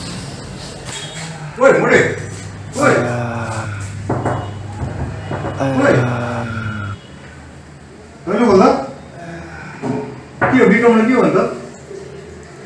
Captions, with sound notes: Hey Abhinam... Hey ( Paining Sound ) Hy open the door ( Knock Knock ) What happen to bikram ?